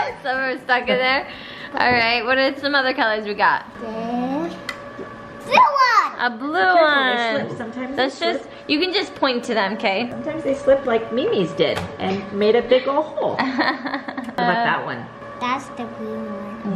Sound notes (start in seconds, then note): 13.3 laughs